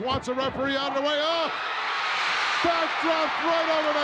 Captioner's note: crowd cheering